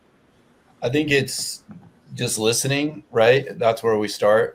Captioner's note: pat